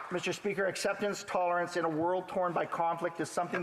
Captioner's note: applause